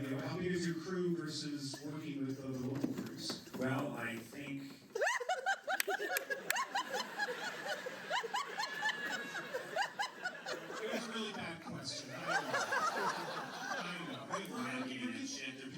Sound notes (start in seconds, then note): 8.2 laughter; 14.7 laughter